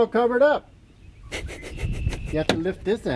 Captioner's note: sniggers